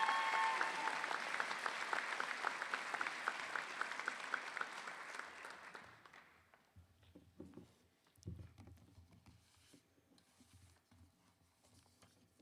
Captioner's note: cheers and Applause